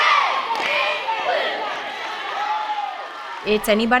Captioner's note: cheering fades out